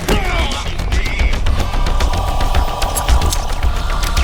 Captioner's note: groaning